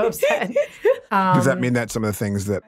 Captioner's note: laughing